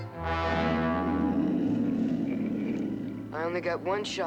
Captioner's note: growling